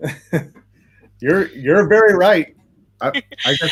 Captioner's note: laughs